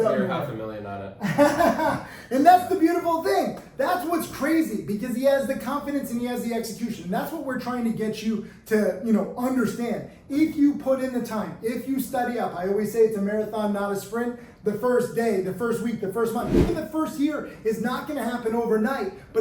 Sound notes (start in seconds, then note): 1.2 laughs